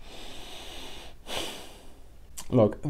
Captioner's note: heavy sigh